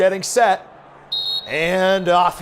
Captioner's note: whistle sound